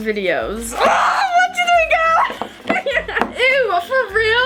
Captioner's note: laughing